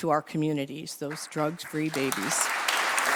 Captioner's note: applause